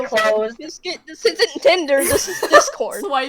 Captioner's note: giggle; laughter